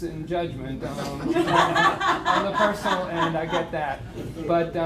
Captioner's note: laughter